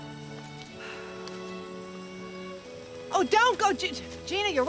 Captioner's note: Sarah sighs